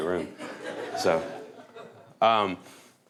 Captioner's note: laughter